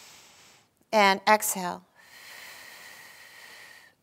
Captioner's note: inhaling; exhaling